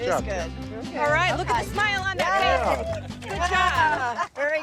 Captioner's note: group cheering